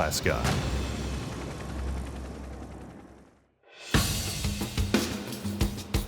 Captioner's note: helicopters whirring; drums beating